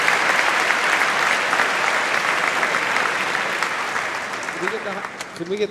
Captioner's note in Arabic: تصفيق